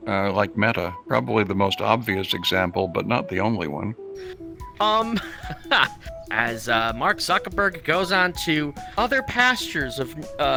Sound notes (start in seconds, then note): 4.8 chuckles